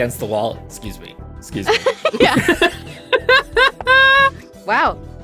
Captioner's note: EVERYONE laughs